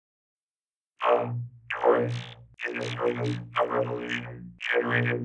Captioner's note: robotic voice